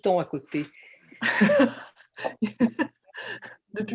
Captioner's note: laughs